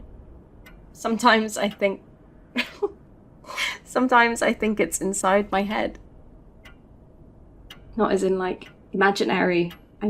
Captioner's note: laughs